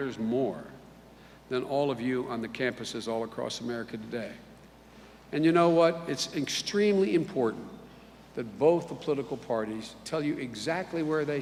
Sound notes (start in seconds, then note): none